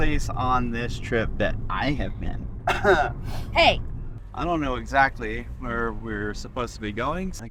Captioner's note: cough